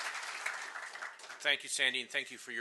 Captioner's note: applause